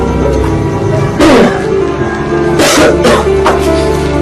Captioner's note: coughing